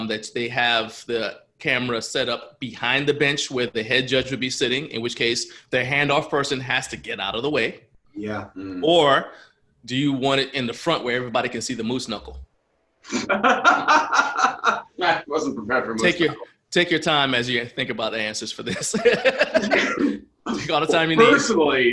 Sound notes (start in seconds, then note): 13.2 laughter; 18.6 laughs